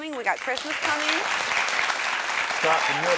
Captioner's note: audience applauding